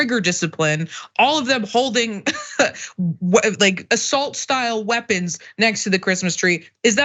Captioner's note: laugh